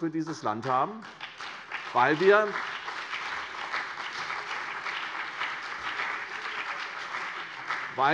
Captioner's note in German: Beifall CDU und BÜNDNIS 90/DIE GRÜNEN